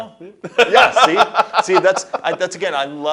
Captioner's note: laughs